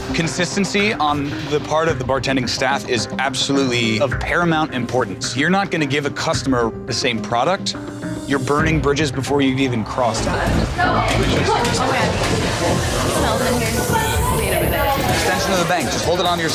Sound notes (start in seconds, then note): 9.8 chatter